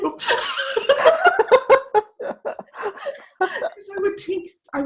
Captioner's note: laughing